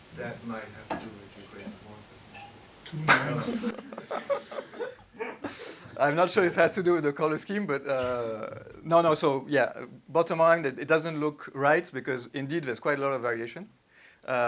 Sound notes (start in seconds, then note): 3.2 participants chuckling